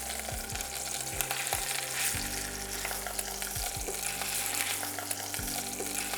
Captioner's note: sizzling sound